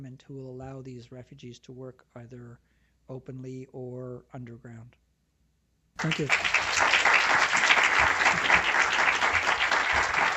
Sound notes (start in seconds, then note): 6.0 applause